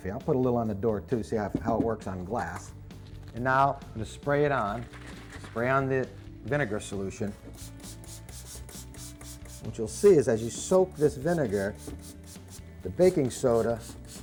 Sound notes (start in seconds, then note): 7.4 spraying